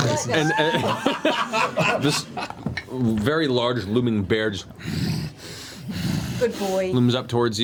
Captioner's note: aggressive bear grunting